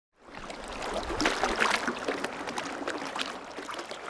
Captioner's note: water running and outdoor sounds